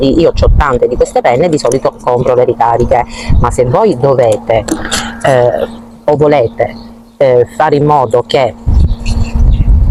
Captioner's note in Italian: schiarire la voce